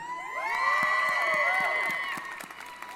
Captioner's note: applause & Cheering